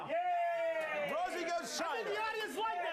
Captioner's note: audience cheering